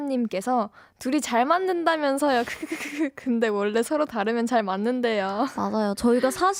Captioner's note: laughing sounds